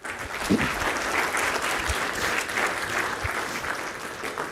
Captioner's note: audience applauds